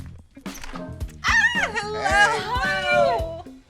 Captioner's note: squeals